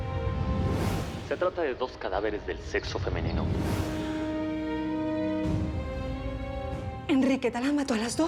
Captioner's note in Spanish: voz en la tv